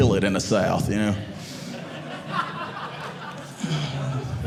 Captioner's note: audience laughing